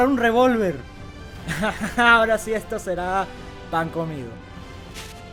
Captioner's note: sadistic laughter